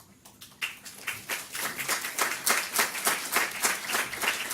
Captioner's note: audience clapping